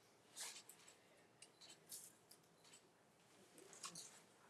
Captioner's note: camera shuttering